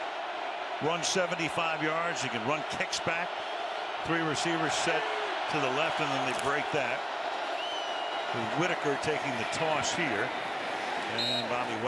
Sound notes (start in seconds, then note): 7.7 cheering